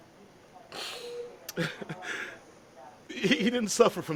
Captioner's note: sobs